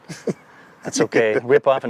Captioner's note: laughing